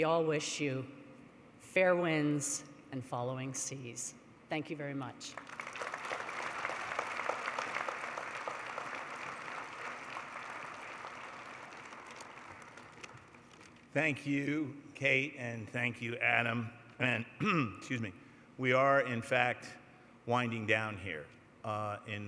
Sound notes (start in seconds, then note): 5.3 applause